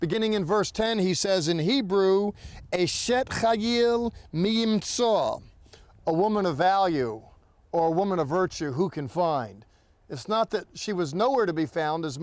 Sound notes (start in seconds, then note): 2.7 speaking in Hebrew